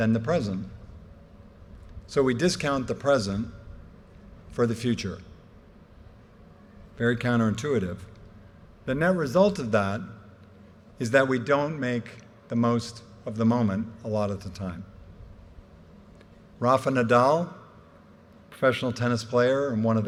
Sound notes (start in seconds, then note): none